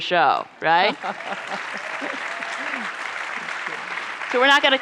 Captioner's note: applause